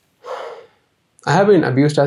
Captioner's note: sigh